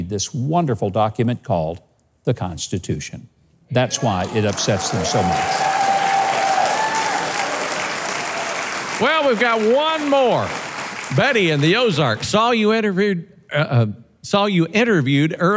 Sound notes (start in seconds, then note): 5.6 audience cheering; 6.5 audience applauding